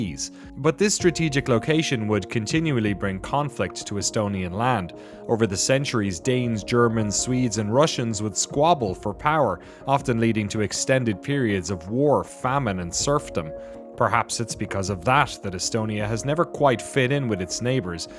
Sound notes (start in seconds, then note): none